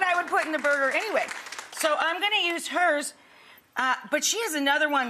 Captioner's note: audience applauds